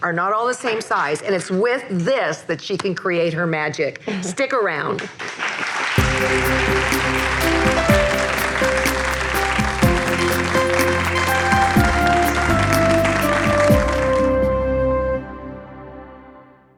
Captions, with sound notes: are not all the same size, and it's with this that she can create her magic. Stick around. (audience applauds) (upbeat music)